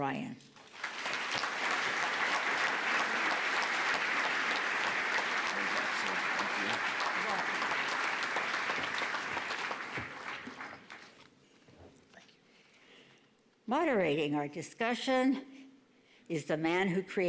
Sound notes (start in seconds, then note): 3.9 applause